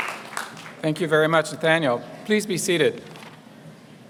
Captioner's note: applause